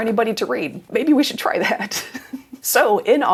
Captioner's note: laughs